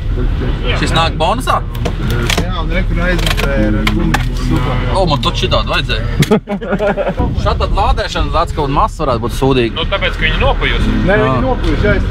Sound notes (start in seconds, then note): 6.1 laughs